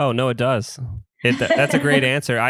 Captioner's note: laughs